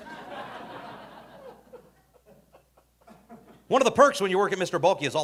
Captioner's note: audience laughing